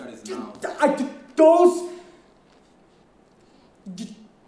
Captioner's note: stuttering